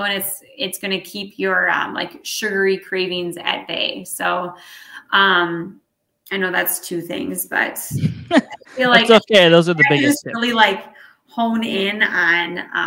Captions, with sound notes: And it's gonna keep your, like sugary cravings at bay. So I know that's two things, but I feel like. - (laughs) That's okay. Those are the biggest things. - I just really like hone in on,